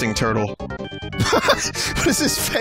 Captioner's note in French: éclat de rire